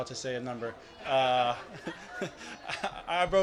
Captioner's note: laughs